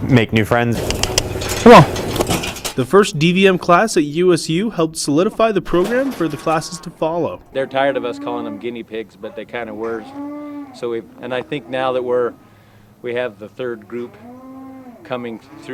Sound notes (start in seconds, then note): 0.7 clicking